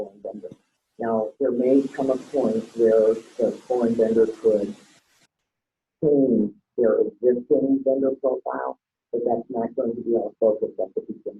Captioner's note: heavy static